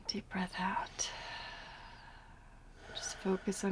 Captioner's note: exhales heavily